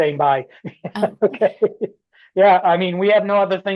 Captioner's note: laughter